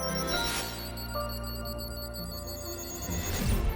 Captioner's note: digital beeping and whirring; music fades; purposeful music